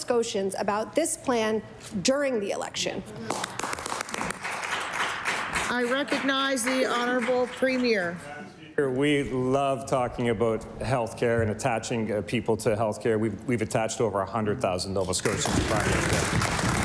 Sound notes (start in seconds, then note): 8.1 applause